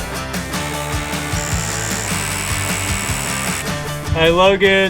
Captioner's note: tool buzzing